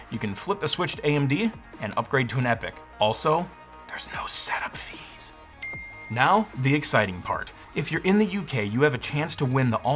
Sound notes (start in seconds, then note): 5.6 bell dinging